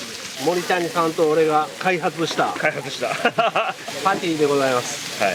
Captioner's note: laughs